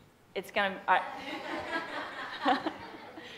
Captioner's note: the audience and the Presenter laugh